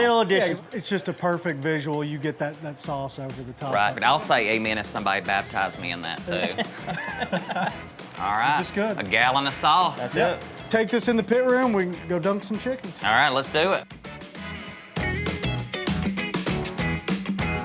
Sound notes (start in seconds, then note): 5.2 people laughing; 14.8 upbeat music